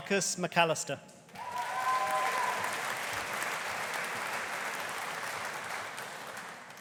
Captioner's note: audience cheering; audience applauding